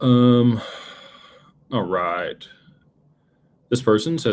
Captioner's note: sighs